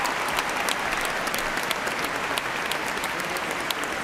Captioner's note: cheers and applause